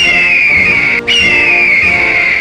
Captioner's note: eagle Screech